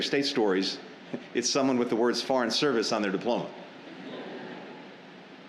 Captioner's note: laughter